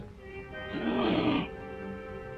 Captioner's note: grumbles